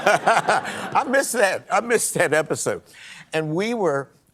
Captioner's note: laughter